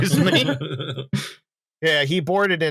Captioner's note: laughter